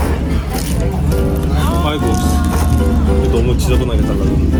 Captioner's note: almond custard slurping